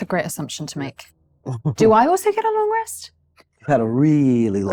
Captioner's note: chuckling